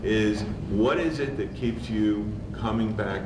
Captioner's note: none